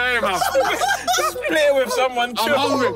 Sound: laughing

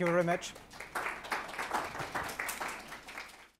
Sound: audience clapping

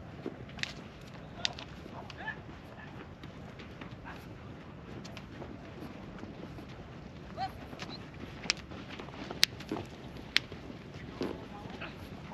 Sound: footsteps; speaking in foreign language

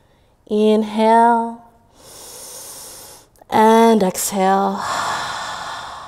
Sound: inhaling; exhaling

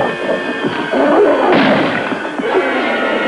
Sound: gunshot

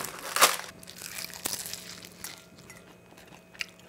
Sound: crazy crunching sound

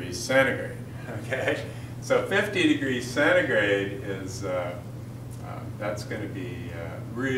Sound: chuckle

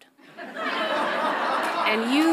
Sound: audience laughs loudly

